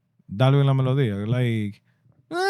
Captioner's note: speaking In Foreign Language